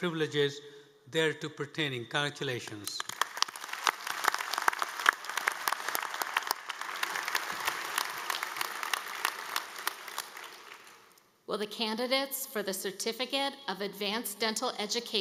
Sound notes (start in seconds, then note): 9.9 applause